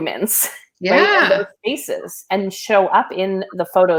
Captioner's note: voice muffled